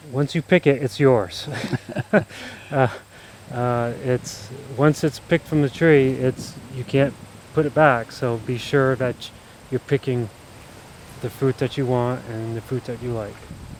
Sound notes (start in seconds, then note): 1.4 laughing